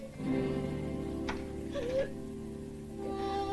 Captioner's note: sobs